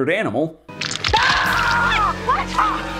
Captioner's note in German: schreit